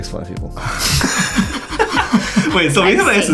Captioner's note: laughing